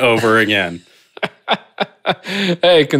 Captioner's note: laughing